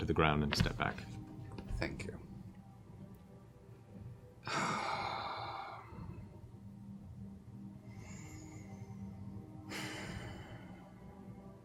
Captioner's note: sighs